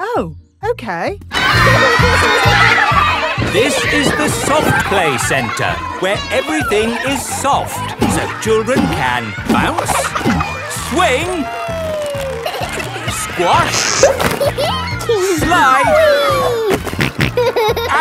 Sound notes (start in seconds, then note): 4.0 loudly over shouting; 13.6 giggles; 16.5 snorting